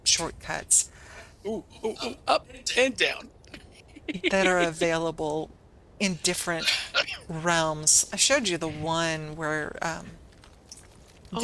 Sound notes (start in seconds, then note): 3.5 laughter